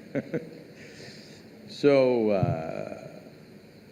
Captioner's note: laughs